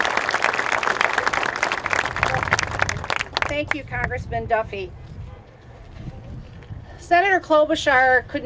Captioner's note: applause